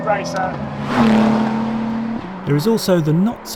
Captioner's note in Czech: motor auta burácí